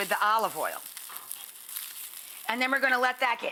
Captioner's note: rice sizzling